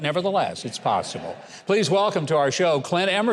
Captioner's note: audience laughs